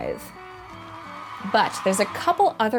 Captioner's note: crowd cheering